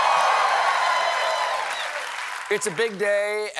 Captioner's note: cheering